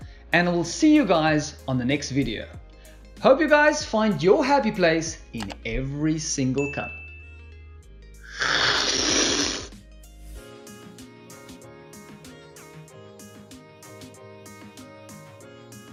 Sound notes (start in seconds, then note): 8.3 slurping